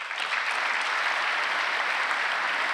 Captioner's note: applause